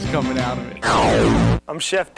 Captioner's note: transformation noise